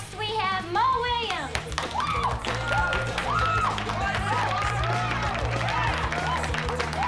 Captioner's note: audience applauding; audience cheering